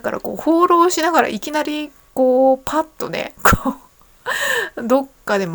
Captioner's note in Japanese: 笑い